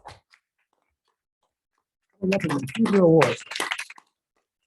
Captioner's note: people clapping